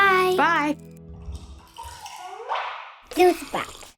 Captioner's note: juice pouring